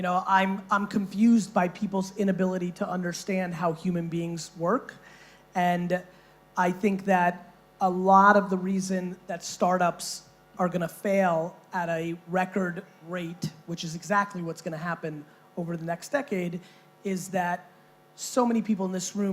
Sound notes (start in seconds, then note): none